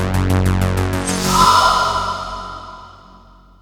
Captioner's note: she screams loudly